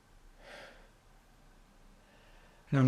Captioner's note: heavy breathing